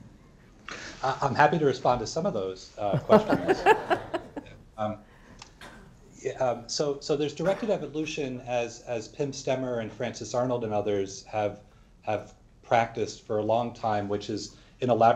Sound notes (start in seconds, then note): 4.9 laughter